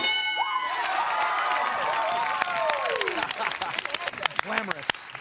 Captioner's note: cheers and applause